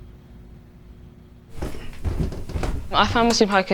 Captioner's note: footsteps approaching